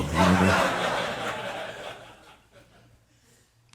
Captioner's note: audience laughing